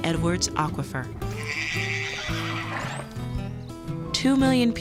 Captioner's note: horse whinnies